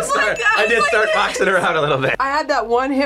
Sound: laughs

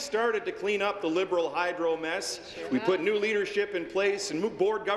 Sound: applause

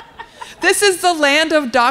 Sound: laughter

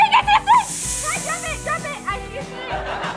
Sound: hissing

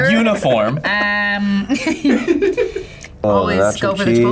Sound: laughs

